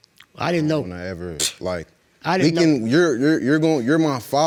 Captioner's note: stammers